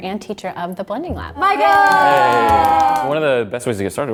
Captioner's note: clapping